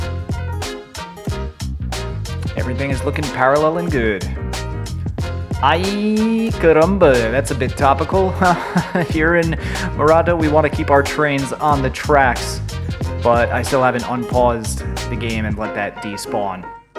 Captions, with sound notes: Everything is looking parallel and good. Ay caramba! That's a bit topical... [nervous laughter] Here in Morato we want to keep our trains on the tracks, but I still haven't unpaused the game and let that despawn.